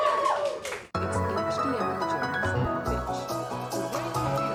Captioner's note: audience cheers; uplifting pop music plays; automated voice